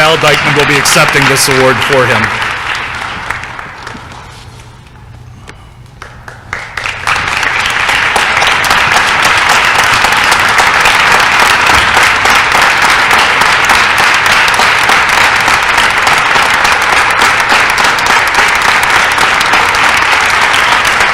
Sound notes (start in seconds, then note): 5.9 applause